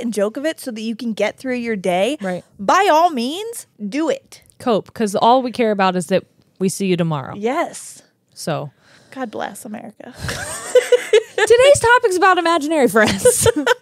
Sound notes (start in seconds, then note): 10.2 laughs